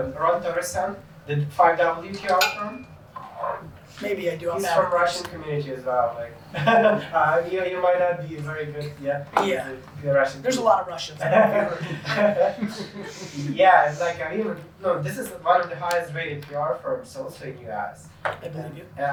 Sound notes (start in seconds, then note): 6.4 laughing; 11.2 laughing